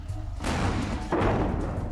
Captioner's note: boom; pow